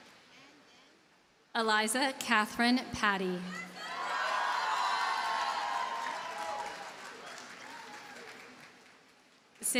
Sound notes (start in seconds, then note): 3.8 audience cheers and applauds